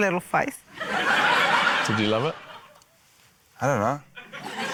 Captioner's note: laughter; laughter